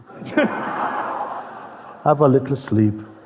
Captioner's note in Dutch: gelach